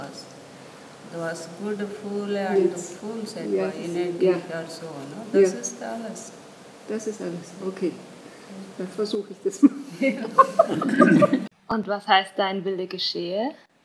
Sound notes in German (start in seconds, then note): 9.4 Lachen